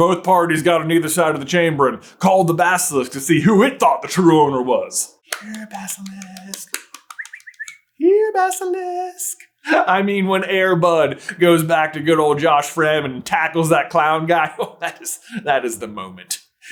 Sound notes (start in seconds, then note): 5.2 whispers; 5.9 whistles